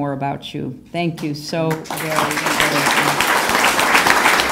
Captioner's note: applause